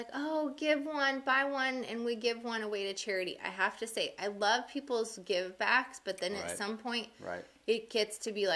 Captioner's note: none